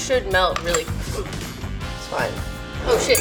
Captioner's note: gasps